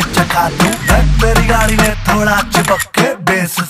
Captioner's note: Camera shutter clicks continuously